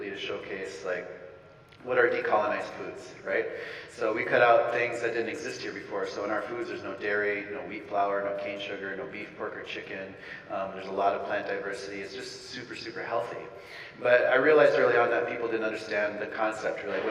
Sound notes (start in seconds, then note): none